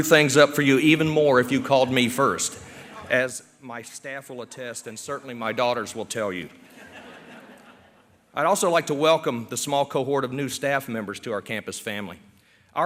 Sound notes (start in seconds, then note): 6.6 laughter